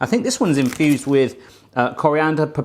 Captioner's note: crinkling